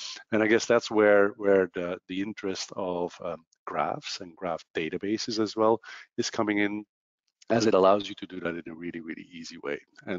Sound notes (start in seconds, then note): none